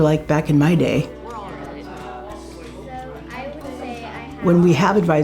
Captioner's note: student chatter